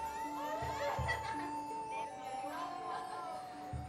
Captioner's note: children laughing